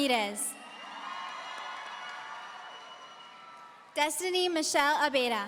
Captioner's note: audience cheering